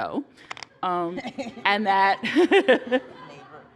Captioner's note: laughter